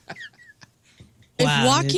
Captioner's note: laughing